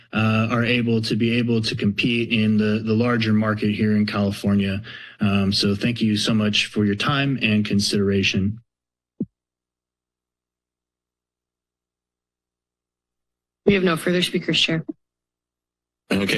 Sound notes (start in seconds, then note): 8.7 silence